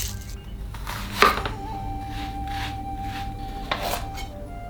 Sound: SFX: Chopping

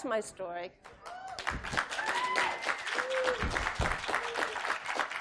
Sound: applause

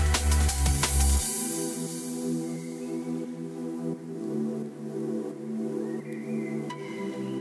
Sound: tranquil music; birds chirping

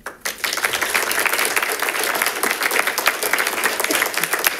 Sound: congregation claps

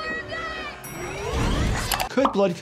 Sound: elevator pings

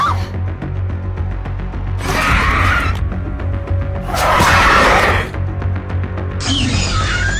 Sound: dryptosaurus Sounds

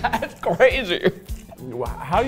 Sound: laughing

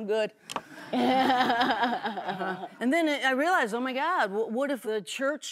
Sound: laughter

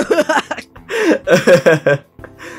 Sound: giggles

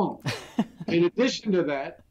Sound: laughs

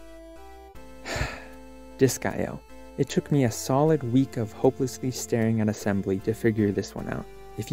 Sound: sigh

